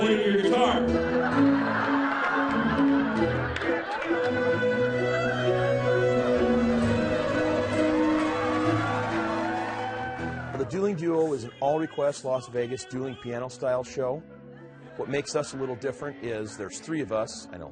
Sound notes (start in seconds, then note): 0.6 laughing; 8.8 cheering